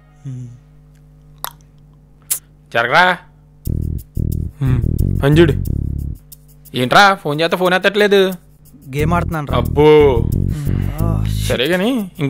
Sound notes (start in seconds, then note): 2.3 clicks tongue; 4.6 chuckles